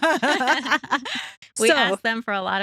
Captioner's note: both Laughing